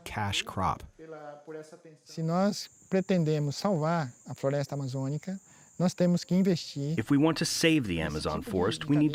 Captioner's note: through translator